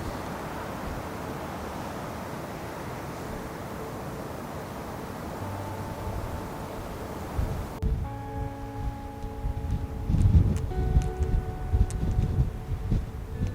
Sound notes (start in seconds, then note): 1.3 wind blowing; 8.2 somber music